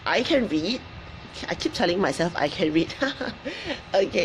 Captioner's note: laughs